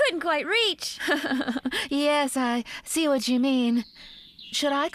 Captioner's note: laughing